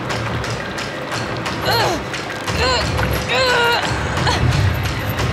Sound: grunting

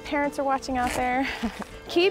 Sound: chuckles

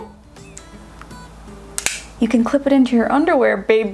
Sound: clicks

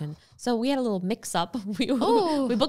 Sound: laughs

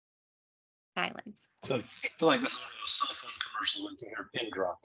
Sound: voice muffling

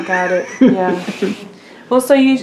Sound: laughs

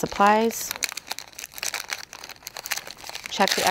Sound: wrapper rustling

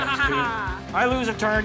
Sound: laughing

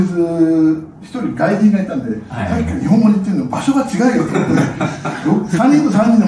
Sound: laughs

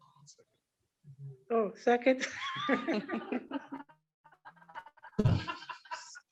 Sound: all laughing

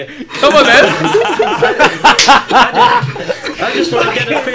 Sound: laughs

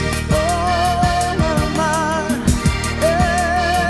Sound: vocalizing

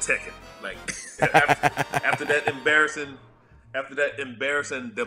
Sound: laugh

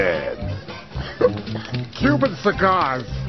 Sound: sniff hiccups

